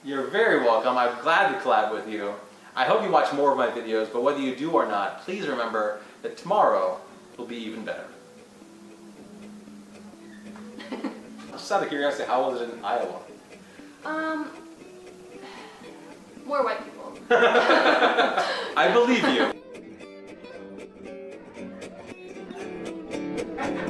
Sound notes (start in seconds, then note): 8.6 music gets louder; 17.2 laughs!